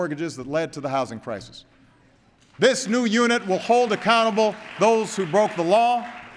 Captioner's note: applause